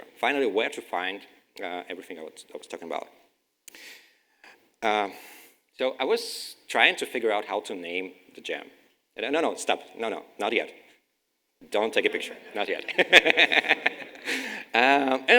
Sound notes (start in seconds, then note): 12.2 crowd laughes; 12.3 laughes